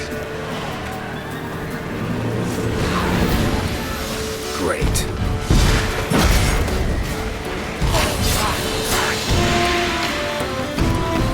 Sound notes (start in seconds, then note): 4.9 explosion